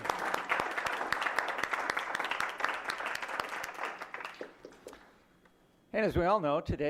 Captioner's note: applause